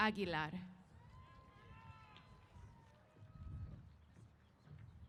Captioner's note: applause & Cheers